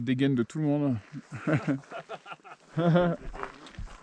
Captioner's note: laughs